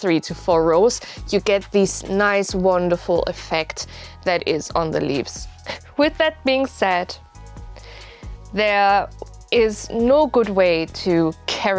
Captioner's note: chuckle